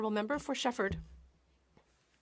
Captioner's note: speaking French